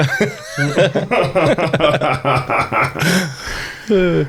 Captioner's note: men laughing